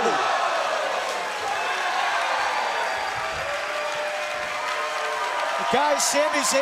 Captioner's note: crowd cheering